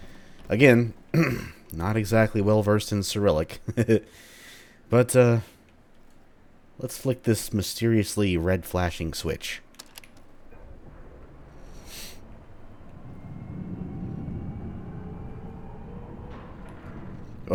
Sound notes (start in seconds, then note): 1.1 clears throat; 3.6 chuckles; 10.1 systems firing up, deep rumbling